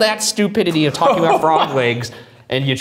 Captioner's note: chuckling